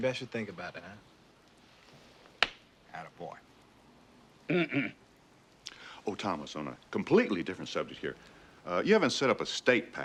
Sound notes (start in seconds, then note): 4.5 clearing Throat